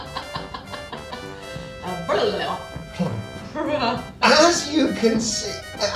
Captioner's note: laughs